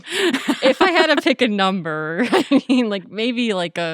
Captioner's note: laughing